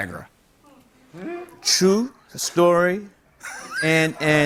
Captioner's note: laughter